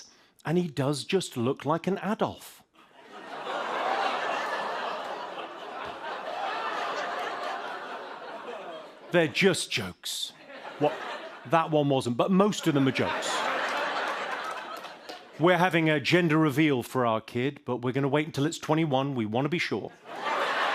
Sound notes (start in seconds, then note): 3.1 audience groans; 12.5 laughter; 20.0 laughter and applause